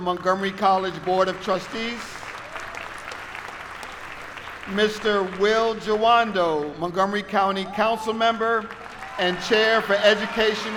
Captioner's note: applause